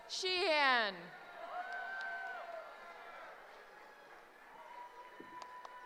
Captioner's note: cheering